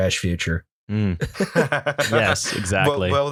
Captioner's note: laughter